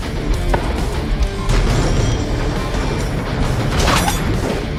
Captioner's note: scaffolds rumbling